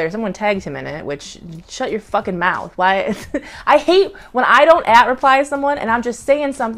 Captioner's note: laughs